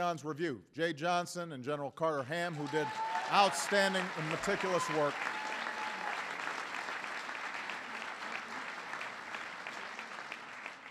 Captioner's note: applause